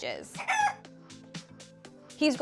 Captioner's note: rooster crow